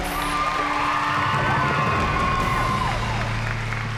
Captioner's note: cheering and applause